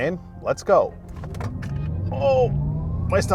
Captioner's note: car whooshing